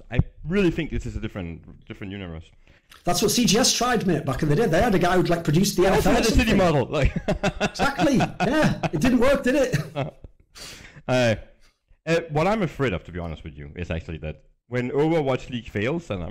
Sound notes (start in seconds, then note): 6.9 laughs